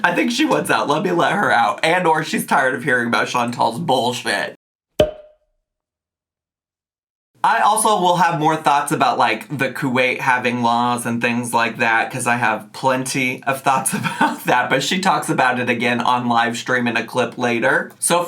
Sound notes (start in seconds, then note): 5.0 cork popping; 13.8 chuckling